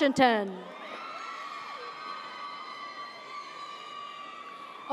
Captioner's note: audience cheers